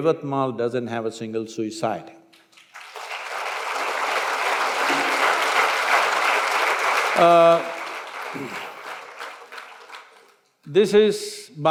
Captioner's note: applause